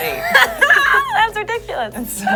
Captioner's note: laughs